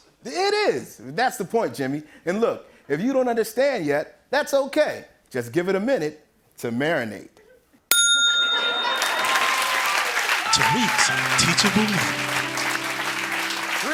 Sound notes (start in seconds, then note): 7.9 ding!; 8.7 applause